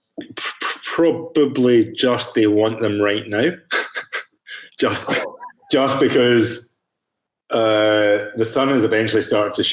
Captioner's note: chuckles